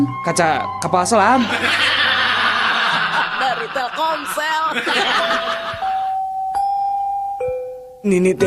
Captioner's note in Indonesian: tertawa